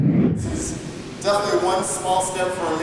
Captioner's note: air whooshing